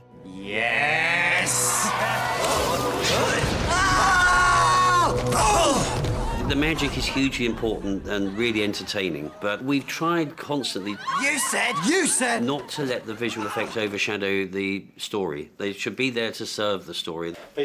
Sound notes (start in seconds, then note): 1.0 all cheer then gasp; 3.0 yell then grunt